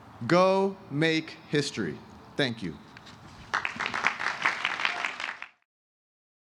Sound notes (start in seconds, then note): 3.4 applause